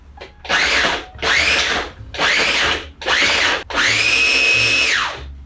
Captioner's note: food processor pulsing